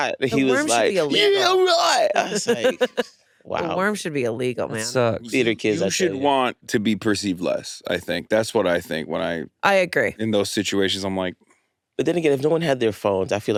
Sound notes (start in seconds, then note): 2.1 laughs